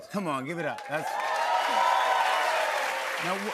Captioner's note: cheers and applause